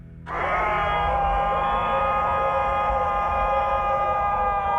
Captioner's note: unearthly screaming